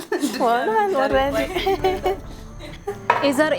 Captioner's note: laughter